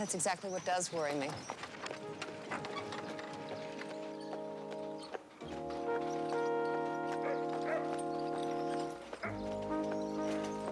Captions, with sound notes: That's exactly what does worry me. (pleasant music) (hooves clopping) (Nero barking)